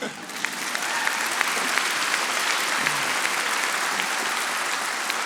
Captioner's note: audience applauding